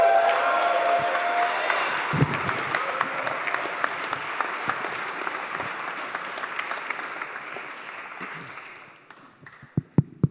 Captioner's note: cheers and applause